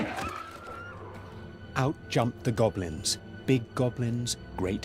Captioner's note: narrator reading on-screen text